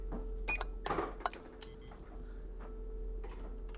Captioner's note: beeping